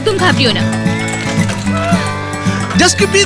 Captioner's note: breathing sounds